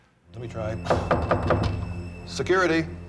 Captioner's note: knocking